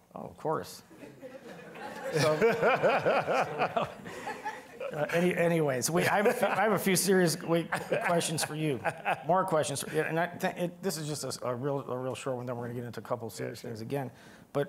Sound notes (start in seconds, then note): 0.9 all laughing; 1.8 laughing